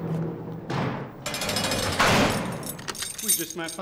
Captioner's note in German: Zellentür knallt zu; Zellentür klirrt